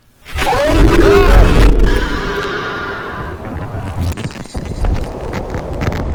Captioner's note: screech